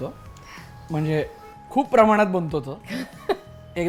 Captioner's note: laughs